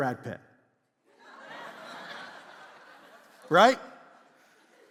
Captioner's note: congregation laughs